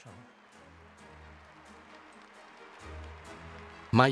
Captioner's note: crowd applauds